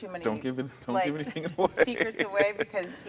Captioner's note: laughing